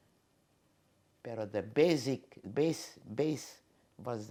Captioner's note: spanish